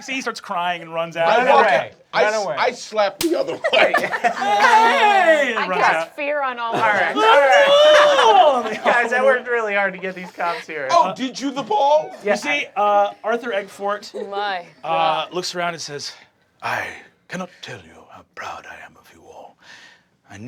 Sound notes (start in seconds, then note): 7.0 screaming; 7.8 cast laughing